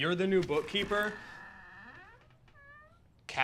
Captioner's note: door squeaking